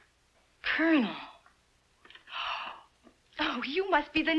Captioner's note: gasps